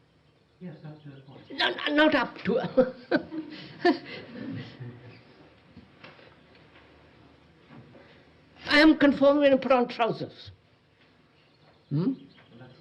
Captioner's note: laughs